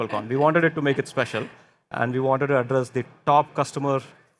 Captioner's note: none